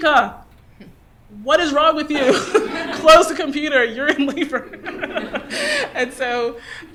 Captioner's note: laughter